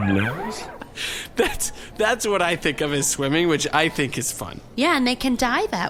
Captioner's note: laughing